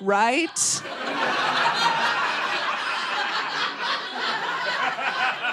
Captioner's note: audience laughing